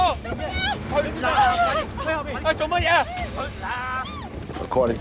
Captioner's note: speaking cantonese; screaming